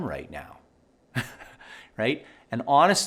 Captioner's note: laughing